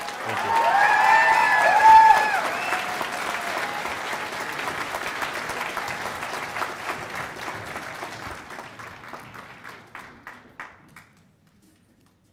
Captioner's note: cheers and applause